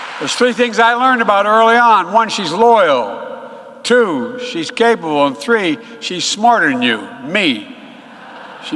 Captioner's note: applause